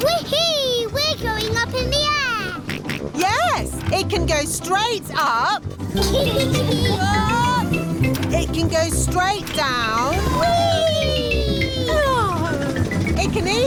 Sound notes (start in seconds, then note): 2.9 snorts; 5.9 kids giggling